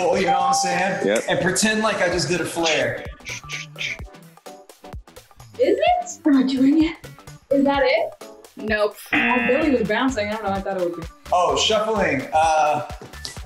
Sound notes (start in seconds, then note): 9.1 buzzer